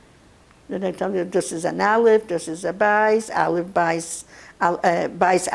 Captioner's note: yiddish